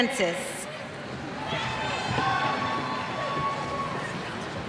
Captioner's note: cheers